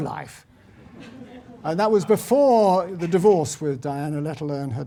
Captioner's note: laugh